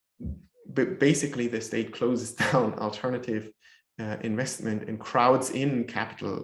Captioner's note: chuckles